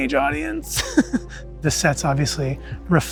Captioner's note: chuckles